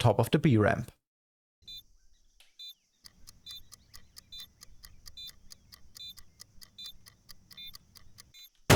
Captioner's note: beeping